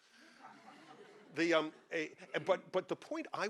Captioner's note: audience laughing